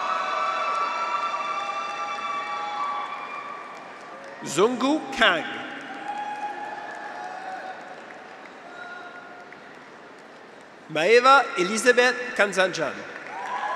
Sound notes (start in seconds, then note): 0.1 graduates cheer; 5.5 audience applauds; 6.5 graduates cheer